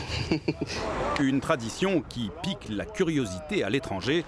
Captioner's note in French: rires